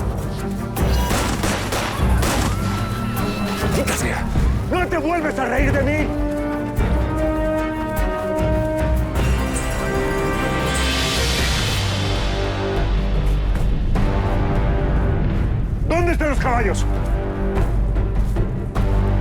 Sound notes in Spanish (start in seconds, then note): 0.8 Disparos; 0.9 Exclamaciones